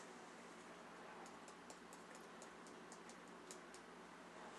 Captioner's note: finger tapping